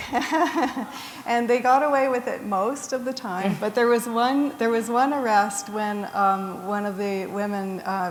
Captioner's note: chuckle